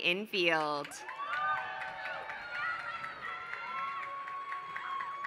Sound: applause

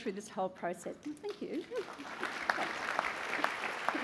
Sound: applause

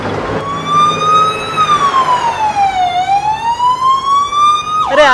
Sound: ambulance siren

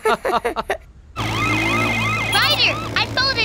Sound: laughing; sirens blaring

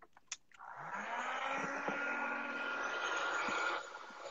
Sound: humming

